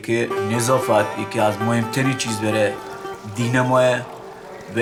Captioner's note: speaks in other language: translation on screen